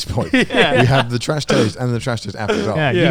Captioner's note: laughs